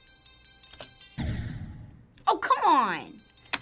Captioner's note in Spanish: Explosión